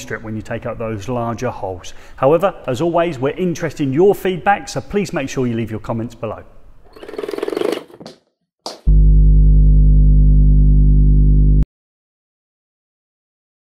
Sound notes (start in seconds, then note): 6.9 mechanical rolling; 8.9 dull electronic humming